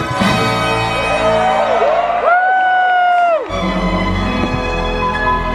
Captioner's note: audience cheering